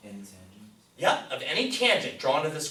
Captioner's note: voiceover